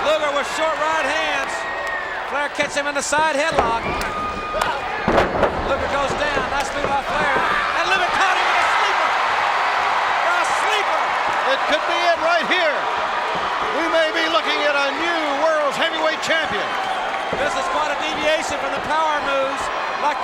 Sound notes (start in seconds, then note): 9.5 crowd cheers